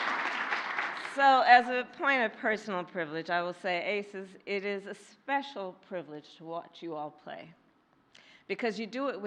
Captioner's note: applause